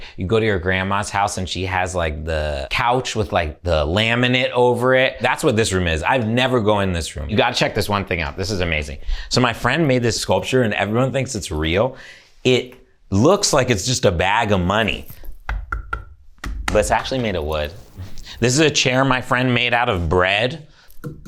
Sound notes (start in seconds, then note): 16.3 sculpture knocks